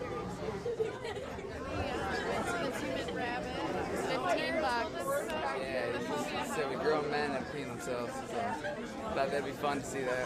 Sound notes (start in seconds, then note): 0.7 chattering